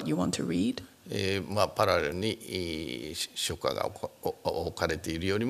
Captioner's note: speaking japanese